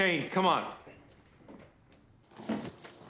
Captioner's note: footstep